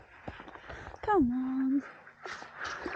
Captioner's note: paddling